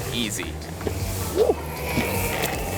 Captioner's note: whooshing